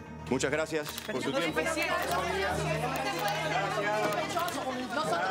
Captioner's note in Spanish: reporteros hablando al unísono